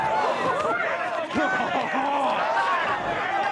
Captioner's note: cheering